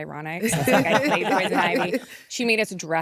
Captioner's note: laughter